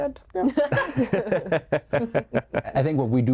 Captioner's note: group laughing